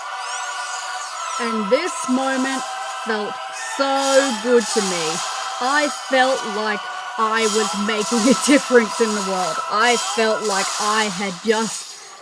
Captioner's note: laughter